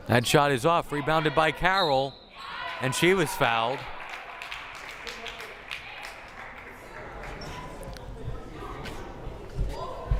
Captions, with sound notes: That shot is off, rebounded by Carroll, and she was fouled. (crowd applauding) (crowd murmuring)